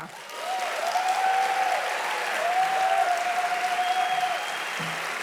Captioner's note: audience applauding loudly